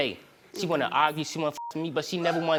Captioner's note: beep